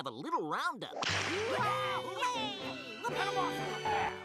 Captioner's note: all exclaiming